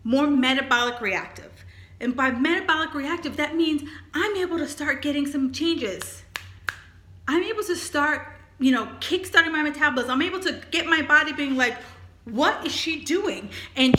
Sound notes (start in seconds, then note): 6.0 snaps fingers